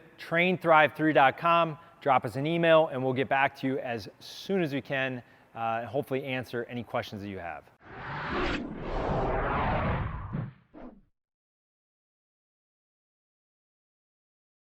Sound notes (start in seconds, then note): 7.8 air whooshing sound